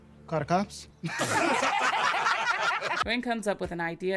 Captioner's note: bursts of laughter